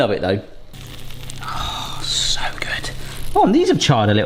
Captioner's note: bacon sizzling